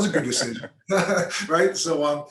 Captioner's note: laughs